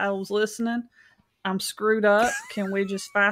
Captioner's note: laughs